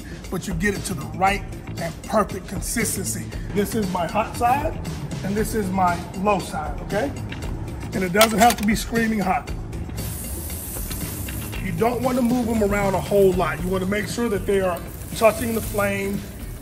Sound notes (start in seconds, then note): 7.0 enticing music; 9.8 steak sizzling